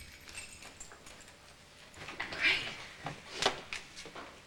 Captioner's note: keys jingle